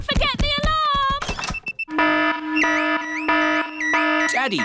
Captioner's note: alarm blaring